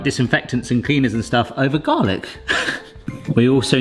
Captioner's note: laughs